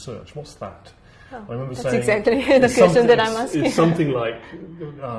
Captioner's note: laugh